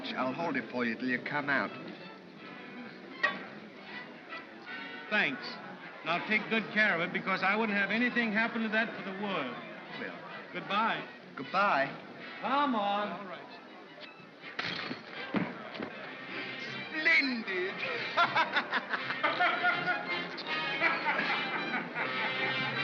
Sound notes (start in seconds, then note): 14.6 shackle clatters; 17.6 laughing; 17.8 laughs; 19.3 ominous music